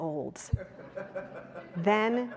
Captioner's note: audience laughing